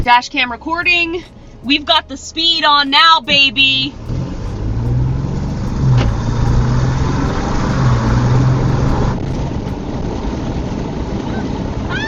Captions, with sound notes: Dash cam recording. We've got the speed on now, baby. (car engine whirring)